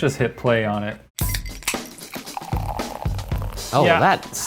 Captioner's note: soda pouring